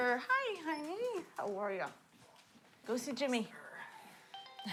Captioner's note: cell phone rings